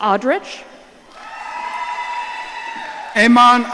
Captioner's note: audience cheering